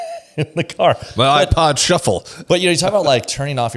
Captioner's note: laughs